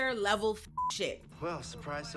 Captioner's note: beep